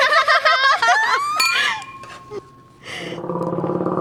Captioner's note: they laugh